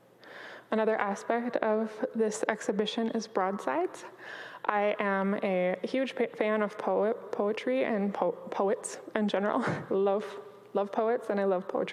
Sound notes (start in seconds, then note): 8.9 chuckles